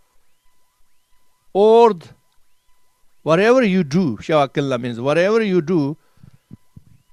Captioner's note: tibetan